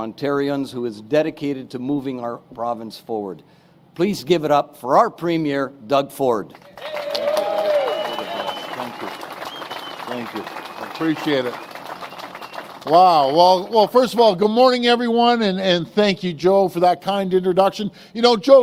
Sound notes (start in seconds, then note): 12.4 applause